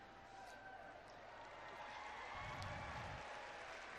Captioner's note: cheering